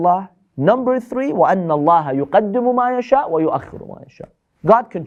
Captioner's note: Arabic